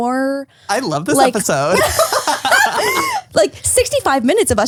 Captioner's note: laughs